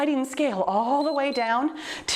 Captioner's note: timer beeps